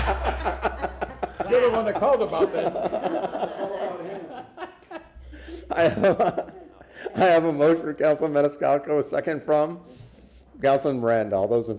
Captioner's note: laughter